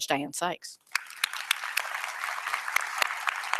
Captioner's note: applause